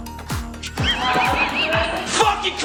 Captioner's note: all laughing